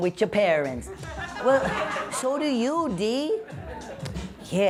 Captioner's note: laughter